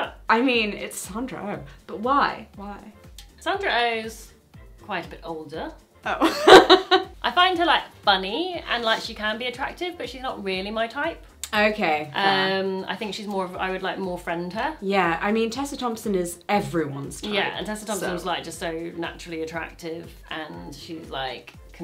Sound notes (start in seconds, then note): 6.6 laughs